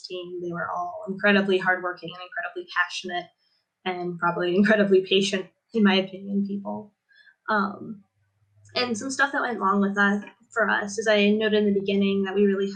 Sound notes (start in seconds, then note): none